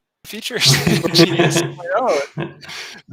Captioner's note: laughing drowns; both laughing